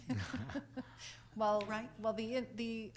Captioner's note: laughs